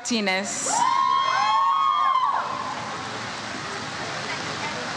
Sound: audience cheers

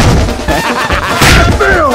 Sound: laugh

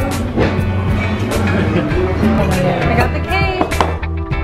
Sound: chuckling

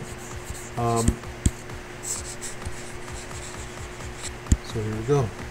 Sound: faint techno music; computer mouse tapping

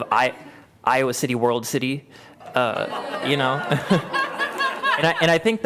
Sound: laughter

